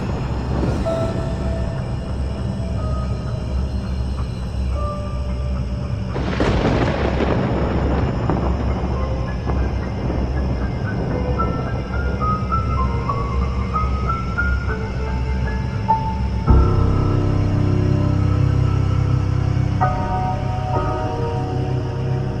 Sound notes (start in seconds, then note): 0.2 scary music, crickets; 6.1 thunder, scary music, crickets; 10.6 scary music, crickets